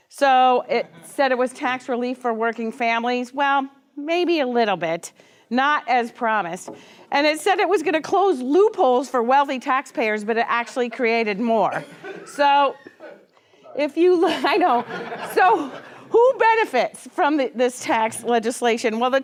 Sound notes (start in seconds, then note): 12.7 audience member coughs; 14.2 audience laughs